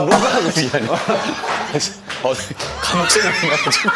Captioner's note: the door opens